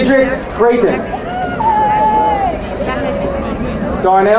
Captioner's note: crowd cheering